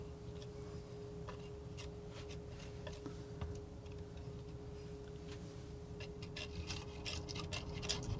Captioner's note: scraping